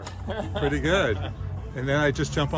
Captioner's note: laughs